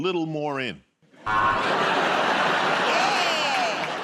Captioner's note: buzzer